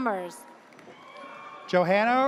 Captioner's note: audience cheers